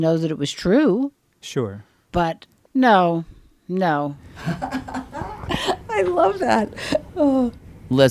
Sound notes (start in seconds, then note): 4.4 laughs